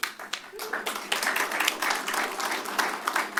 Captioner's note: applause